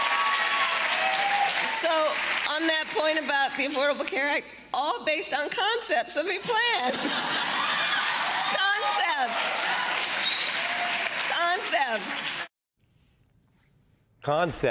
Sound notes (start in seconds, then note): 5.0 cheering and applause